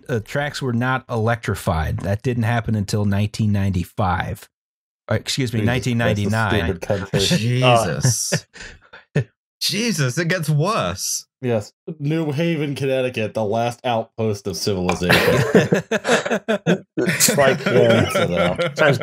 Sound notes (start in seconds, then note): 14.9 laughter